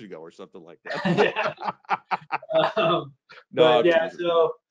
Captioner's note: laughs